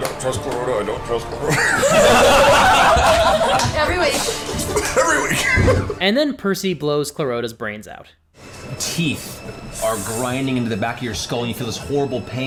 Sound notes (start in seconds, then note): 1.4 laughter